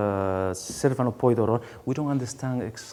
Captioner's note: speaking in a foreign language